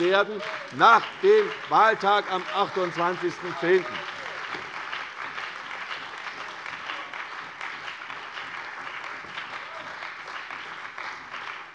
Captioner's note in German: Beifall bei der CDU und dem BÜNDNIS 90/DIE GRÜNEN